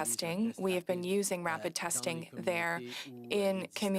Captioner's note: speaking French